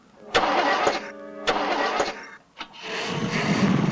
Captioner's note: engine sputtering